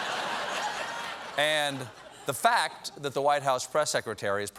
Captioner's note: laughter